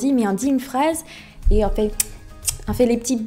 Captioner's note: kisses sound